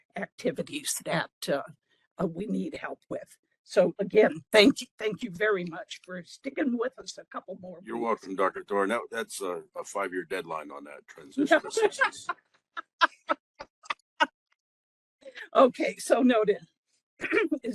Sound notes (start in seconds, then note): 14.7 laughing